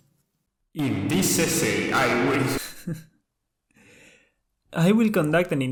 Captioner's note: booming voice